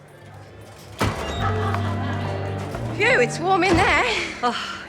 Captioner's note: music. A swing door opens